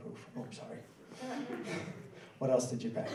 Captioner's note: laughing